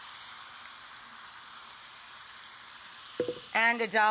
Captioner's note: pan hissing